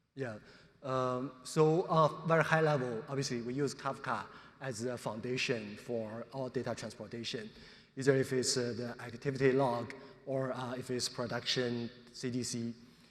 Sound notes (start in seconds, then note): none